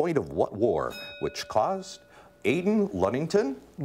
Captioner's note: bell rings